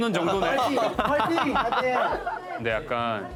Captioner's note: team 4 cheering on and relying on their ace